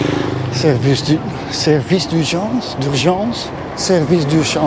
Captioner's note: foreign language